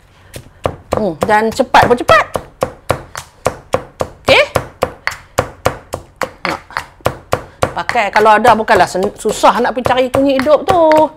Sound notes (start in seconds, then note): 3.1 pounding sound